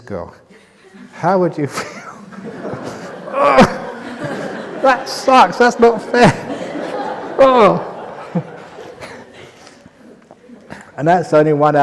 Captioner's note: laughter; laugher